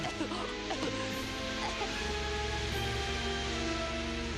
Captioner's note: choking